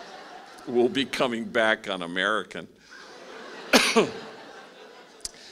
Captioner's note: laughing; laughing